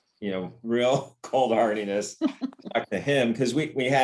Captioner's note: laughter